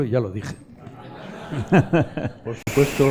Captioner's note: laughs